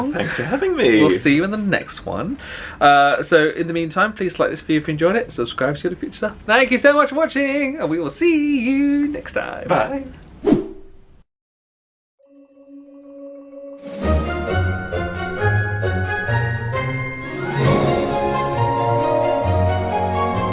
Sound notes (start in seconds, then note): 10.4 screen wipe whooshes; 12.4 joyful music swells; 17.7 joyful music